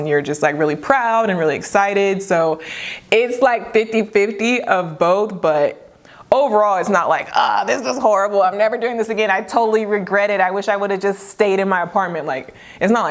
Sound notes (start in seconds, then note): 7.5 groans